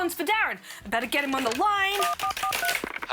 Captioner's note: phone dialling tone